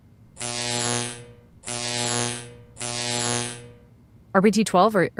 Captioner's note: electric shorting sounds